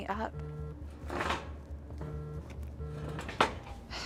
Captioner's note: phone buzzing